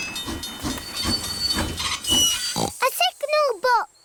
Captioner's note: tinging; oinks